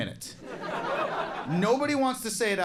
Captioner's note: crowd laughs